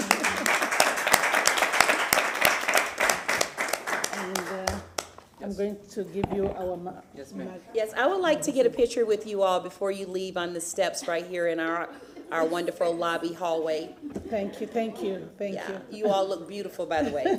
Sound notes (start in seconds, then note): 3.2 applause